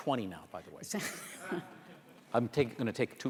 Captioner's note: laughter